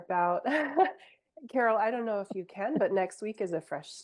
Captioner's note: chuckles